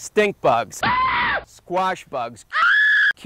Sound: man screams; woman screams

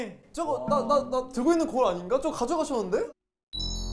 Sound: confused

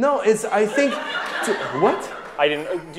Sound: audience laughing

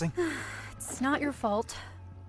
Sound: sighs

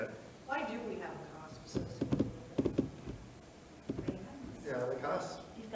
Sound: speaks faintly

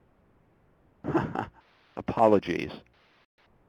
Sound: laughs

